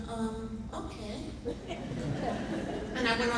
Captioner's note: laughing